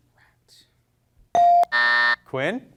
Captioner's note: bell rings; buzzer ringing